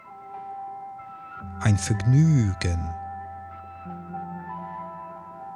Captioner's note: german